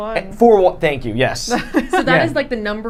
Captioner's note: laughing